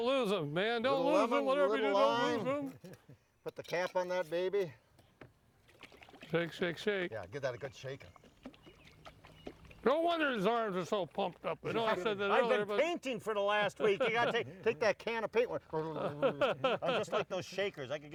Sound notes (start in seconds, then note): 5.6 liquid sloshing; 8.0 liquid sloshing